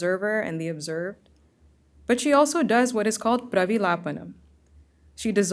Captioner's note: hindi